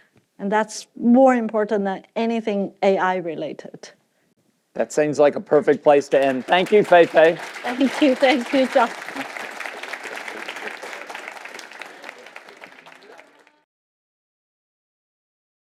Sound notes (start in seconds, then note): 9.4 applause